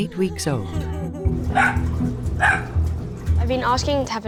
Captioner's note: Apple barking